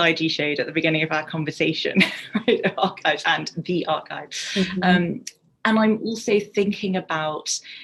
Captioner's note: laughs